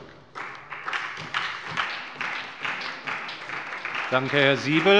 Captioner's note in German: Beifall bei der SPD